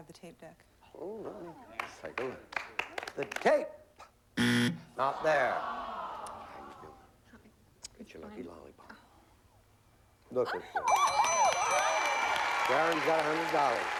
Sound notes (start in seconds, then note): 4.4 buzzer; 10.9 applause